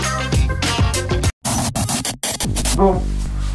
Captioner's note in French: Bruit d'interférence